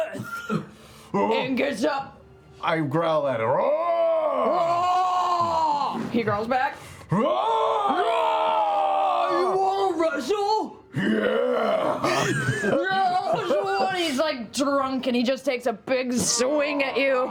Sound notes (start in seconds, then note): 3.6 roars; 8.6 roar